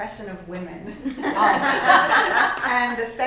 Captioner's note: laughter